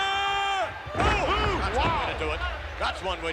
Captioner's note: body slams